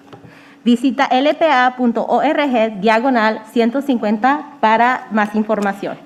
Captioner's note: speaking in foreign language